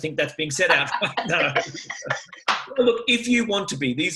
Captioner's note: laughs